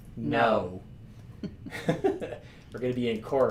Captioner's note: both laughing